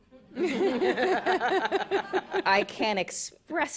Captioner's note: laughter